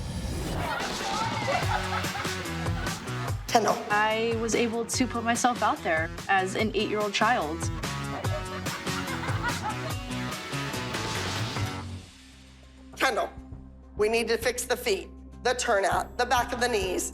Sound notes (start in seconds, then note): 0.6 laughter and chatter; 7.8 laughter